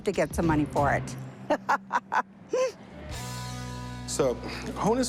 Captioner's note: laughs